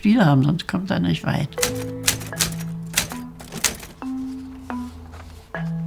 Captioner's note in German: Tippen auf einer Schreibmaschinie